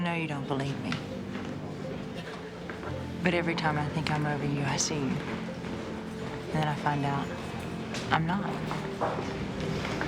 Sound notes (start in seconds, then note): none